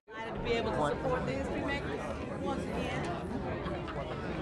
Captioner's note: crowd talking